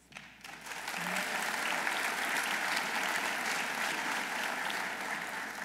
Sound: audience applauding

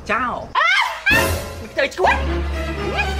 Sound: laughing

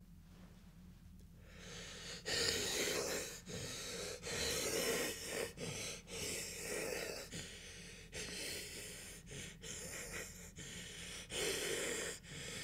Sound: laboured breathing

